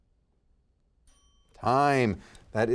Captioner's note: timer dinging